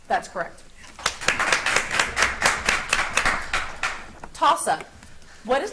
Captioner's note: audience applauds